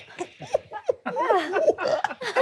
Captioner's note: forced laughing; whimpering